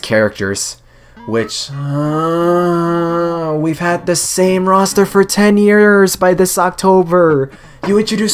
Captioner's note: siiiiigh